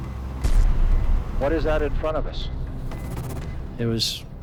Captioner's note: man over radio